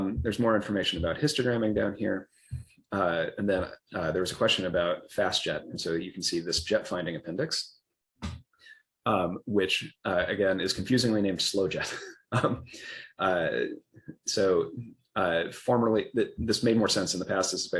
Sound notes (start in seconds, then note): 11.8 laughs